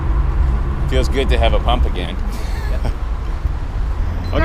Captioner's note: laughing